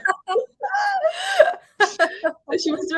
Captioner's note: woman laughing